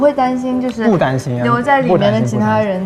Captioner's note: confident